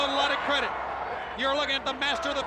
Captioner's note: crowd chatter